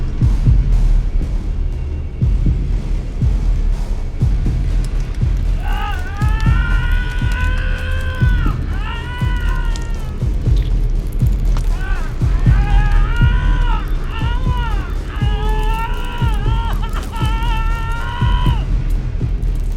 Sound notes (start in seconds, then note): 7.8 screaming